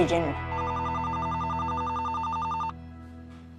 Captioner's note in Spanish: Suena el teléfono